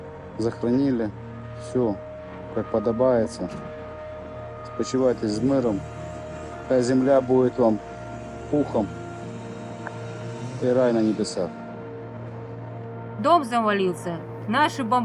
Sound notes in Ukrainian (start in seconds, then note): none